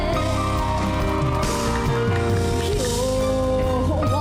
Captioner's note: audience cheering